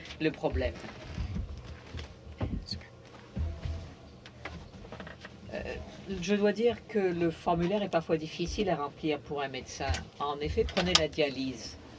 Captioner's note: speaking in french